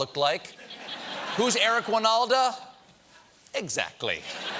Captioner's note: laughter